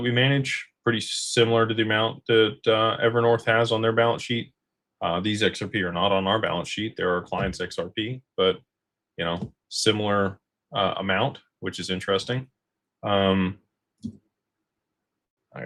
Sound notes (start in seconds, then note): none